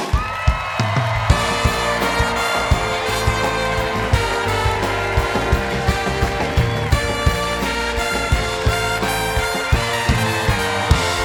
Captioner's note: cheers and applause